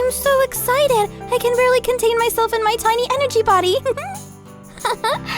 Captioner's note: laughs